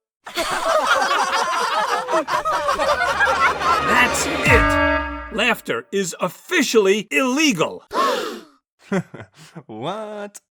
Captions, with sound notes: [EVERYONE LAUGHS] That's IT. Laughter is OFFICIALLY ILLEGAL! [ALL GASP] Haha... whaat?